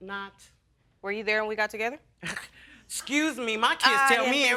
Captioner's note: scoffing